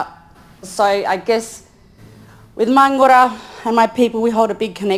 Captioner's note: speaks in foreign language